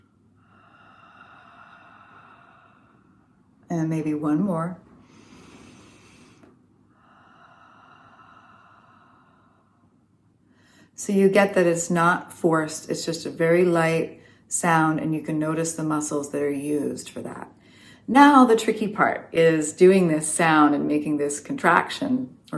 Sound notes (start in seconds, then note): 0.5 haaaa sound with mouth open on exhale; 7.0 breathing in through nose; 7.0 haaaa sound with mouth open on exhale